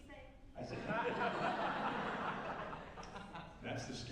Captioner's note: laughter